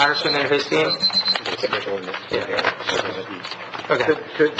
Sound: alarm beeps

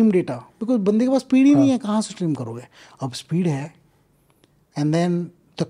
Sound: speaks in Hindi

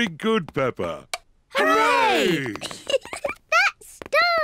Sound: giggles

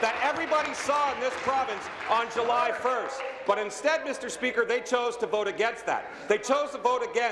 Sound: applause

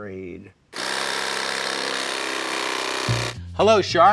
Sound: saw buzzing

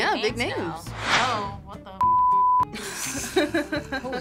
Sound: laughs

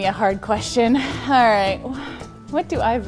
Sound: sigh

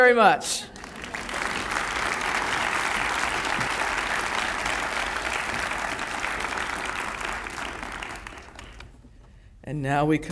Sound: audience applause

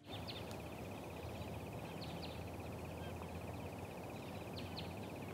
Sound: birds chirping

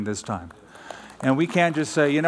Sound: applause

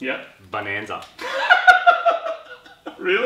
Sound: laughs

